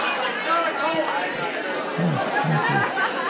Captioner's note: crowd